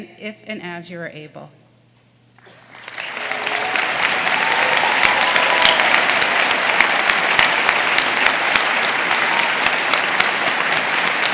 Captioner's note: applause